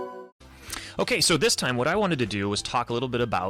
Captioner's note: soothing music; voiceover